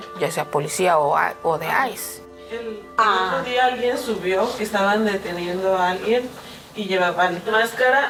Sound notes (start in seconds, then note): 2.7 student speaking in Spanish